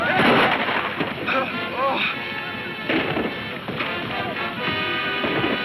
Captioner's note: man speaking in foreign language; gun firing; man gasping; guns firing; dramatic music